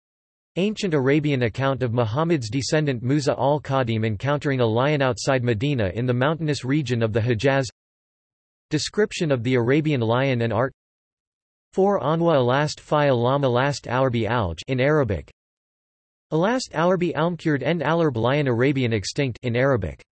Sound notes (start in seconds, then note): 15.2 in Arabic; 19.5 in Arabic